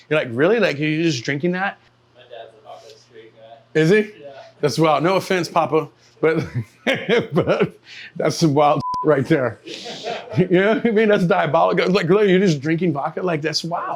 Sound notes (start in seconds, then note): 6.3 laughs